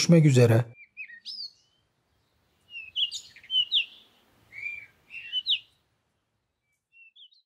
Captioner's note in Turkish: kuş sesleri